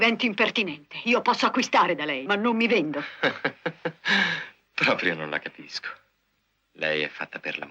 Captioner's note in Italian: risate